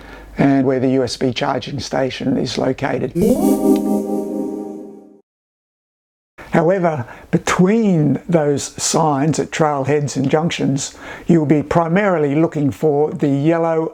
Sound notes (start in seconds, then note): 3.2 ethereal zing - Yellow arrows